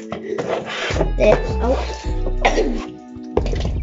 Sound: cough

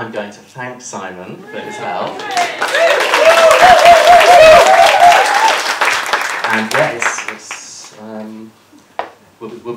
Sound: applause

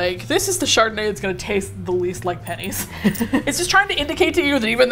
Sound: laughs

